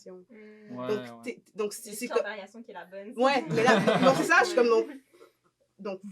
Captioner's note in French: rires